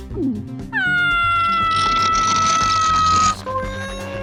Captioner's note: cabby screams; gulp